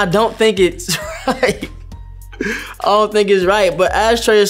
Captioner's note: laughing